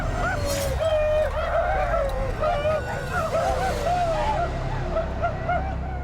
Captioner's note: whooping